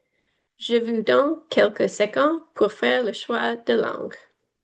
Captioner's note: foreign language